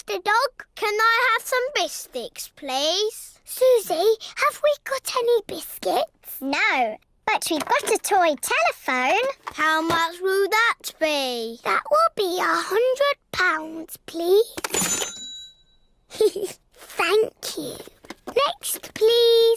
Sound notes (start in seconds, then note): 14.7 dings; 16.1 giggles